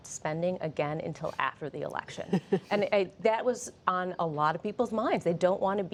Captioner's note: laughter